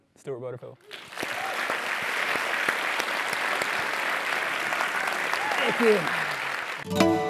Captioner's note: applause